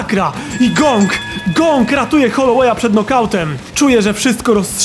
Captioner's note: triple ring sound